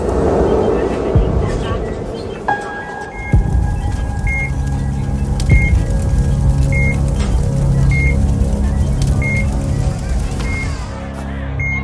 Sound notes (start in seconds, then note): 0.8 monitors beeping; 3.2 flames roaring; 11.6 crowd clamoring; 11.6 monitors beeping